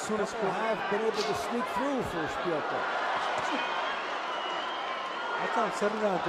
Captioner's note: cheers